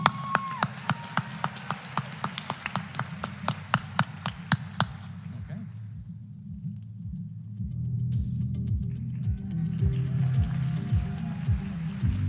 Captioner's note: applause